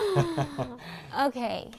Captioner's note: laughter